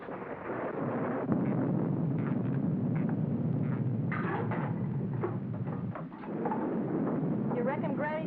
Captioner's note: thunder rumbles